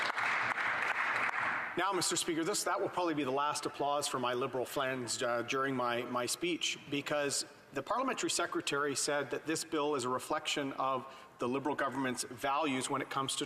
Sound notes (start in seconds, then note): 2.0 applause